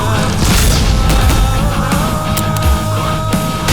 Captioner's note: explosion